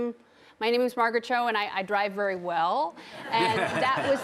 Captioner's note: audience laughing